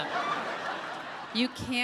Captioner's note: audience laughing